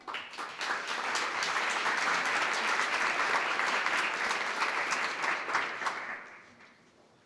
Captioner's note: applause